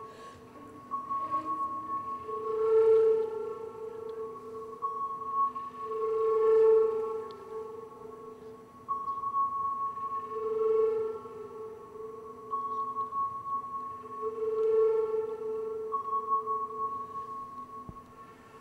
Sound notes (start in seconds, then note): 8.4 soft pinging and trilling